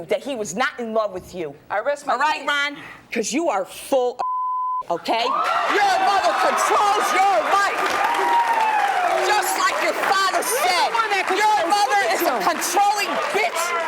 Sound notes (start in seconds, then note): 4.2 beep; 7.5 audience cheering